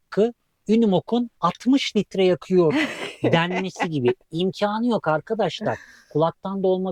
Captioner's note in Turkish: kahkaha